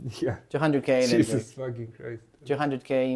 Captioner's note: laughs